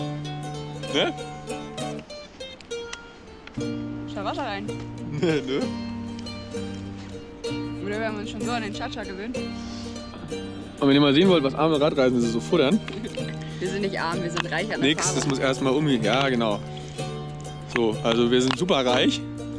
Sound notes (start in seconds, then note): 5.0 laughs